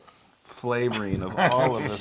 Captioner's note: laugh